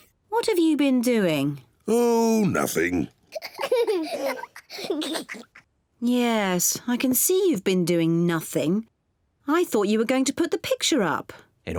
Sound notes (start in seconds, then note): 3.4 both laugh